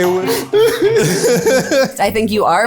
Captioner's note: all laughing